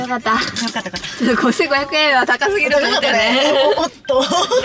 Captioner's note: laughs